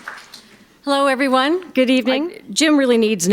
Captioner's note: applause